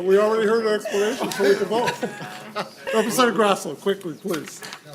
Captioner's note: laughing